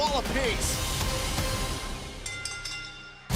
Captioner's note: bell ringing